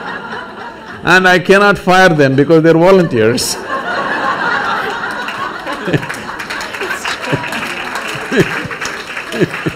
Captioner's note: laughter